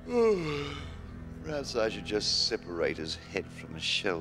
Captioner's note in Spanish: bostezando